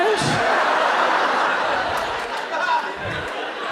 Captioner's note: audience laughs